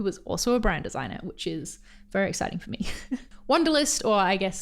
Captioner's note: laughs